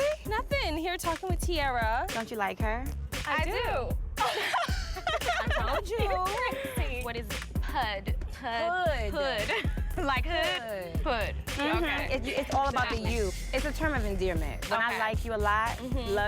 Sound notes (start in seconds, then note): 4.2 everyone laughs